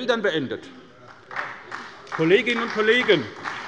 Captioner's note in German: Beifall bei der SPD